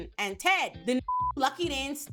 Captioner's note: beep